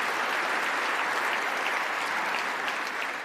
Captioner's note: applause